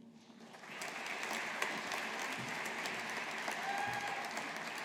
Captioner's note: audience applauding